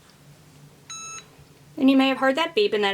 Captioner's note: Easypress beeping